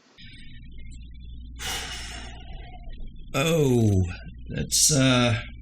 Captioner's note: sighs